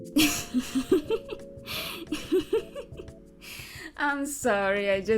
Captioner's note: she Laughed